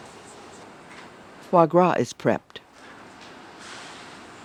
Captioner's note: voiceover